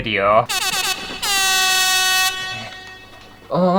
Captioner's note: air horn!!